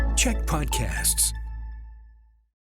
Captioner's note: announcer voice